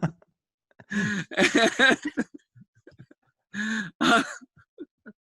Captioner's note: laughter